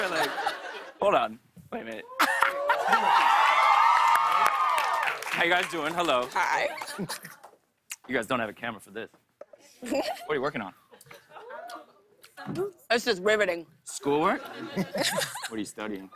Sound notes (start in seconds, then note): 2.2 laughter; 2.2 cheers and applause; 6.7 laughs; 11.0 giggles; 14.3 laughter